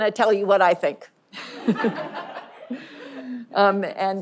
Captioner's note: audience laughing